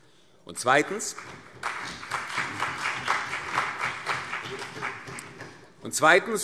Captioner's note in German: Beifall CDU und BÜNDNIS 90/DIE GRÜNEN